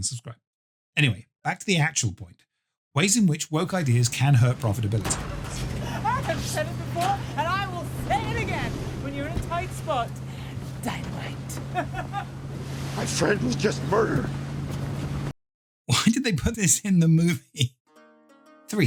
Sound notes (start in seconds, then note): 5.4 upbeat music; 11.8 laughing; 18.4 upbeat music